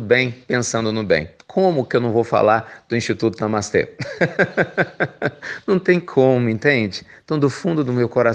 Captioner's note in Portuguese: risos